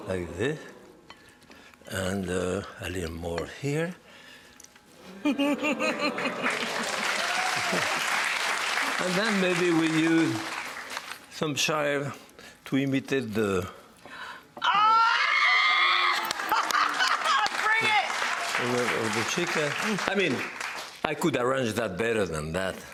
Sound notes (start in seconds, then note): 5.1 laughs; 6.1 audience cheers; 14.6 screams; 15.4 audience cheers